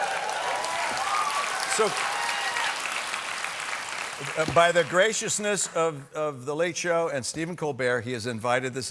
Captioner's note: cheers and applause